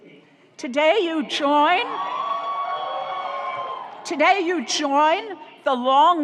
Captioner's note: audience cheers